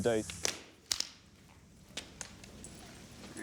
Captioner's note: sound of canes